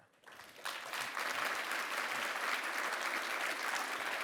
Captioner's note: audience applauding